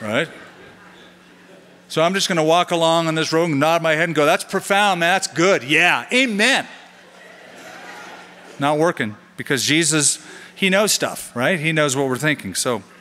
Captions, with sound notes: [LAUGHTER] So I'm just going to walk along in this room, nod my head, and go, that's profound. That's good. Yeah, amen. [LAUGHTER] Not working because Jesus-- he knows stuff, right? He knows what we're thinking.